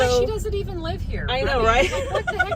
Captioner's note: laughter; more laughter